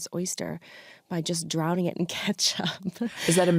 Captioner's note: chuckles